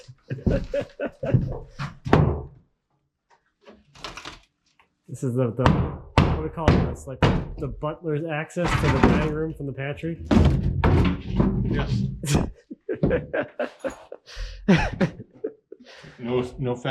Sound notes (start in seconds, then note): 0.0 speaker laughing; 10.2 boards clanking; 12.2 speaker laughing